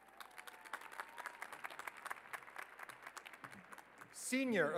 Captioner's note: applause